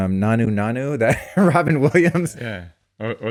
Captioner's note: laughs